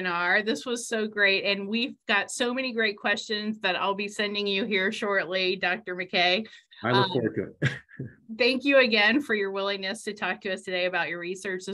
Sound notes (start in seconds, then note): 7.6 brief laughter